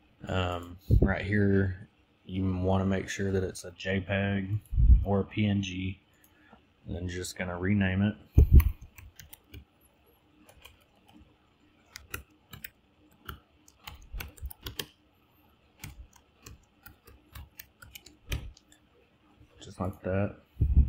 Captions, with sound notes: Um, right here you wanna make sure that it's a JPEG or a PNG. Then you're just gonna rename it. [Typing] Just like that.